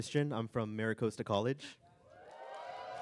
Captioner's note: cheering